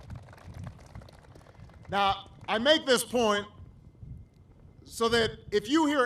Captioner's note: applause